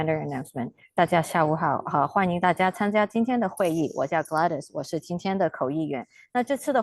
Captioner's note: interpreter speaking in Mandarin